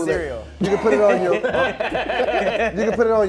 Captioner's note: laughing